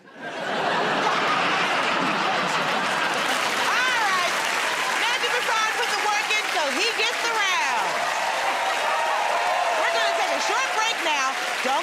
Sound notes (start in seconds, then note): 0.0 laughter; 3.6 applause; 7.9 cheers and applause